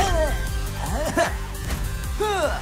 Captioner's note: Amato laughs, grunts